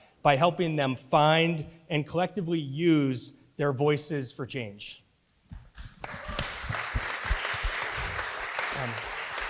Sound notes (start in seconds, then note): 5.9 audience applauding